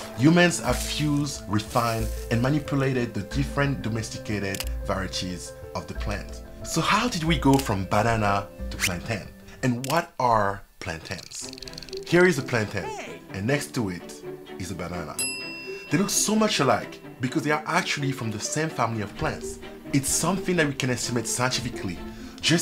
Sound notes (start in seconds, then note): 15.2 bell dings